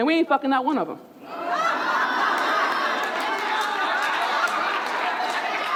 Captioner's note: audience laughing and clapping